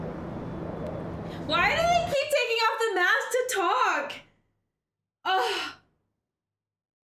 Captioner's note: sighs